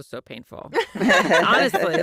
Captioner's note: laughter